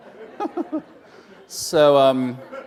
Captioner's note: laughter